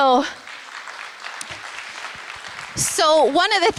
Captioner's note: applause